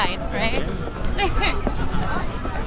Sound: emma giggles

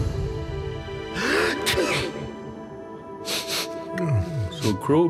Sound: sneezes

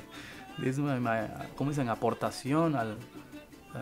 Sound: in Spanish

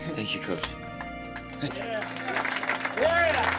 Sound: applause

